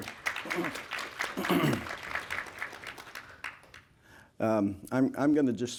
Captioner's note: applause